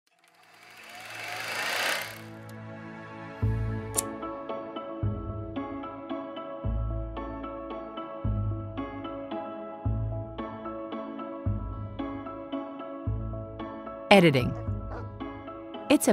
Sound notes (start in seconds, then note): 0.1 camera reel whirring; 2.5 calm music